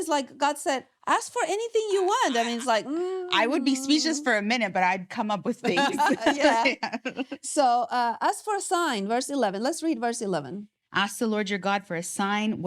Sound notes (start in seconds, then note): 7.3 laughing